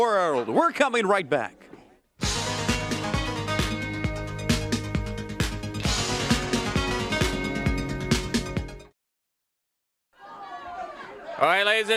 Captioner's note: crowd cheering